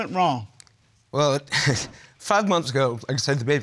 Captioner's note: chuckles